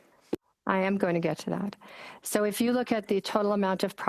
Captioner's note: speaking in French